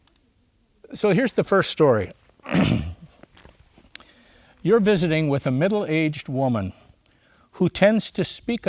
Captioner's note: clears throat